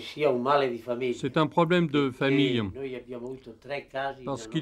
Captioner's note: Italian spoken language